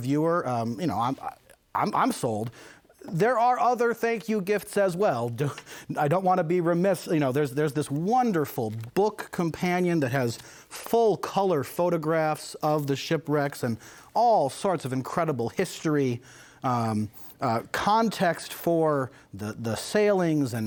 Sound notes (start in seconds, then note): none